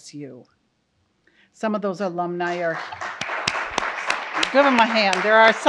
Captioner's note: audience applauds